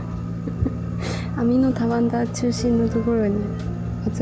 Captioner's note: laughs